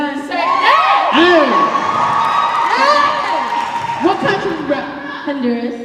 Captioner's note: cheers and applause